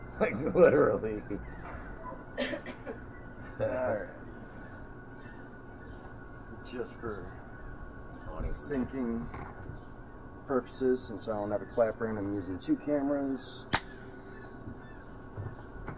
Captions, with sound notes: Like, literally (laughing) alrighty just for syncing purposes. Since I don't have my clapper and I’m using two cameras.